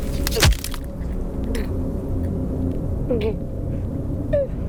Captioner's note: Sara choking